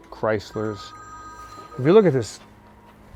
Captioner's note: phone rings